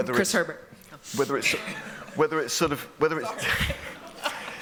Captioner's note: laughter